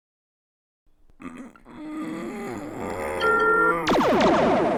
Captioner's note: straining, minor alarm noise; 2 torpedo launches, longer laugh